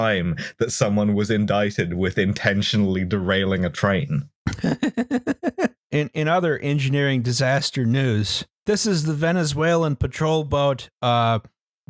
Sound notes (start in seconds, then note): 4.5 laughs